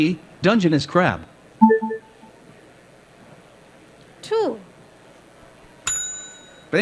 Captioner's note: ding